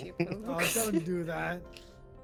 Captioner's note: laughs